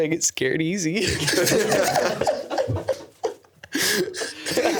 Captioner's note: everyone laughing